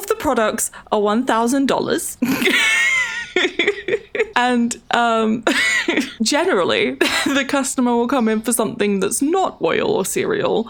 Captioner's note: laughs